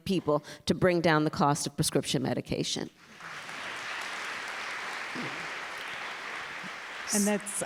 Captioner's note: applause